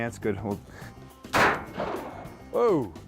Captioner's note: gun firing